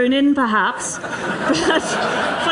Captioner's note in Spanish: risas